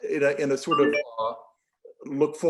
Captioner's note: device chiming